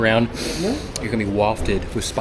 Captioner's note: sniffs